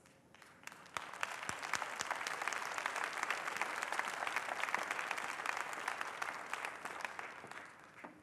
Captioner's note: applause